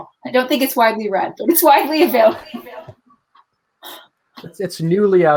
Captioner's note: laughs